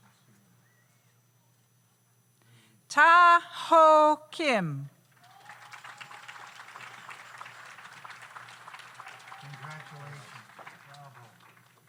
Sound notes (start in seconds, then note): 5.1 audience applauds